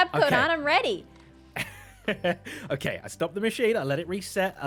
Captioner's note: laughs